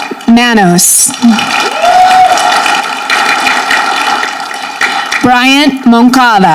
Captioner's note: audience clapping